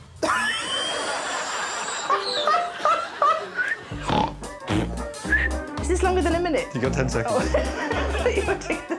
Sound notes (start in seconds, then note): 0.3 laughs